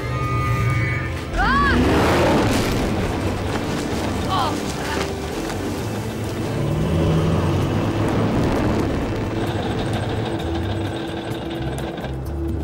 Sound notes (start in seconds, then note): 1.2 exclaiming; 1.3 shrieking and roaring; 4.0 groaning